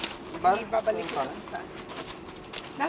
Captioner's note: overlapping chatter